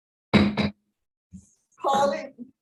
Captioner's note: gavel knocking